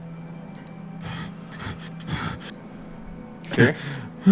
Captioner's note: panting